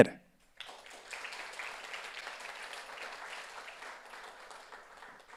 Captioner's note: audience applauds